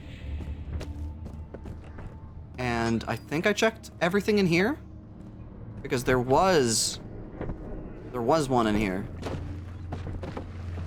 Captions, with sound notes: [Footsteps] And I think I checked everything in here because there was there was one in here. [Footsteps]